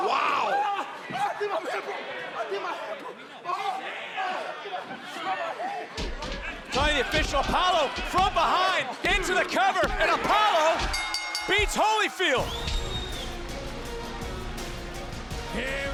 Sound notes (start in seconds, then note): 3.3 yelling; 10.8 bell rings